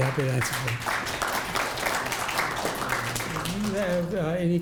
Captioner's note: audience applauding